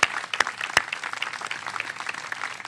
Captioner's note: applause